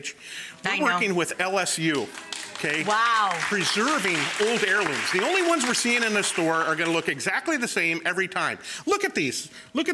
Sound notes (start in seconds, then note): 2.0 audience gasps and claps